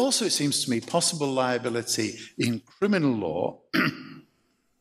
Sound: clears throat

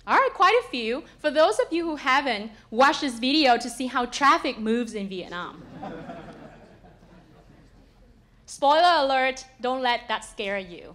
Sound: laugh

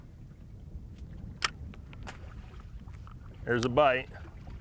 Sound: reel clicks

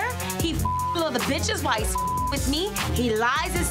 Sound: beeps

